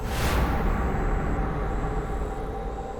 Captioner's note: whispering stops